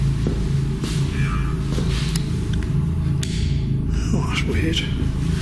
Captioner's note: device vocalising